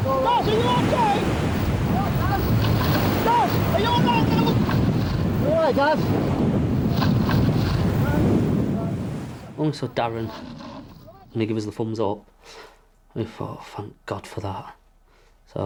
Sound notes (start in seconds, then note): 2.5 water gurgling; 6.7 boat droning; 6.7 water whooshing